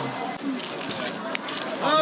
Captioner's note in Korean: 바삭